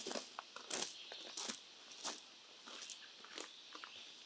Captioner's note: footsteps crunch